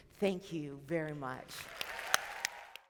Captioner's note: audience clapping